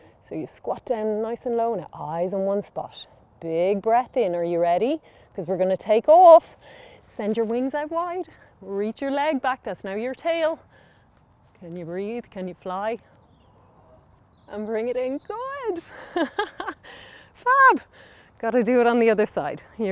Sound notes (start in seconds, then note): 15.9 laughing